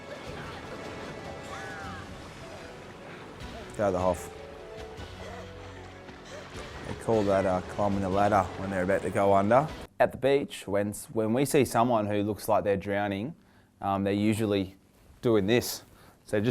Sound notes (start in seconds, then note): 0.0 splashing; 0.2 boy yells; 5.0 boy panting; 5.2 splashing